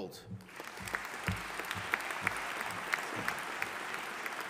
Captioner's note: audience applauding